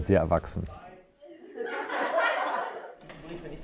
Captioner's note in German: Kinder lachen